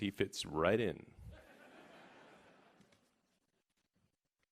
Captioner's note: laughing